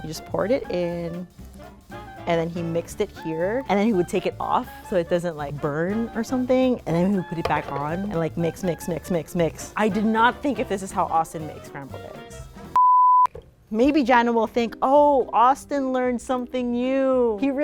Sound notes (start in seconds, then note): 12.8 beeping